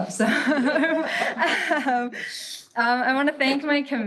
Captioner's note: all laughs